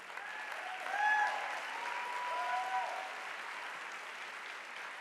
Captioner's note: audience applauding